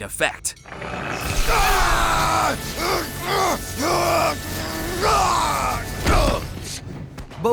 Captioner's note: screaming